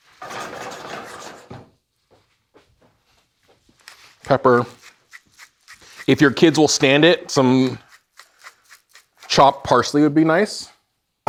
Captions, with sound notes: (pan rasping) Pepper. If your kids will stand it, some chopped parsley would be nice.